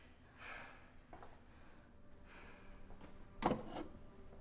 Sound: heavy breathing

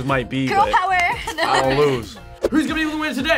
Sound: laughs

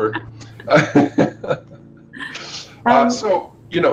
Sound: laughs

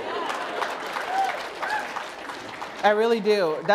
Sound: applause

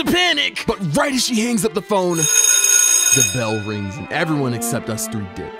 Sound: bell ring

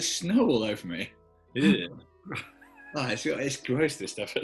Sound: horne shivers and chuckles

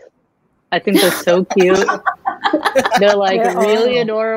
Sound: all laugh

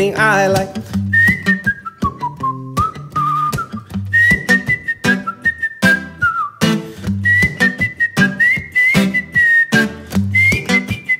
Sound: whistles

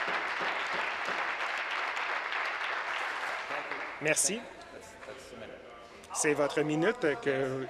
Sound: applause

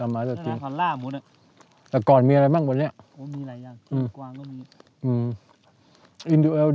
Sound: speaking in foreign language

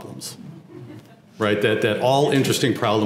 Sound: laugh

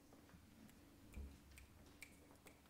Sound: snapping

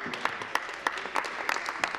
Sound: applause

